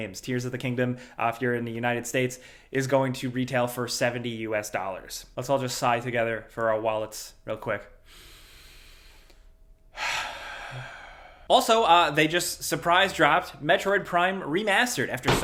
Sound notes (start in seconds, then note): 9.9 sighs